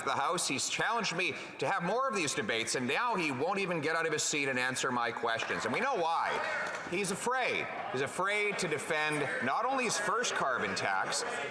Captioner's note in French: voix de l'interprète